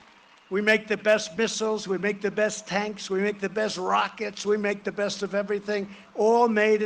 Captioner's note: cheering and applause